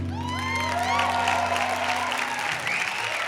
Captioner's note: applause